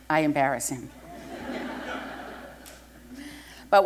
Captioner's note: laughter